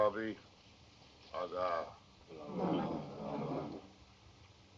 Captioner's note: Whitlock Chanting In Foreign Language